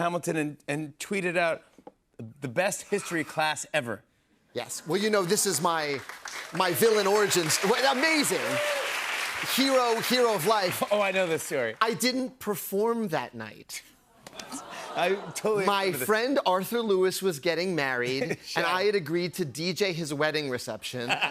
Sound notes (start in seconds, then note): 13.8 audience groans; 21.0 laughter